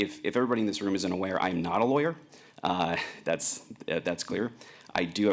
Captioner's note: chuckles